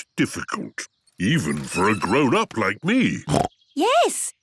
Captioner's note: snorts